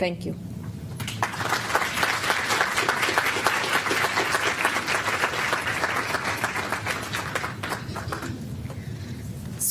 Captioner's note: applause